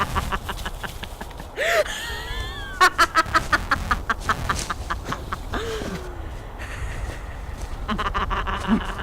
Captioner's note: laughing